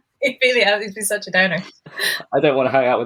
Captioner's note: laughing; laughs